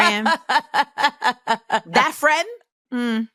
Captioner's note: laughs